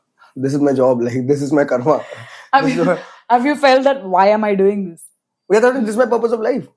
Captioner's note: laughs